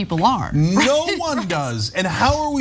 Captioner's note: laugh